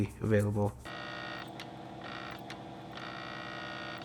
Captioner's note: machine whirring